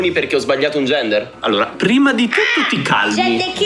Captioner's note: squawks